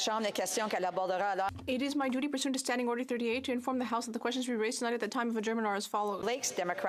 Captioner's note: speaking French